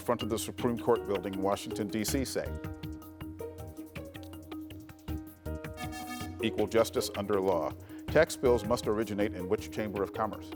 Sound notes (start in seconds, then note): 2.8 lively music; 5.8 bell dinging